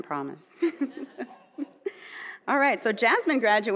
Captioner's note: chuckling